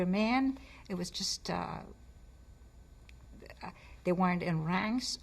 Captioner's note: pauses for 3 seconds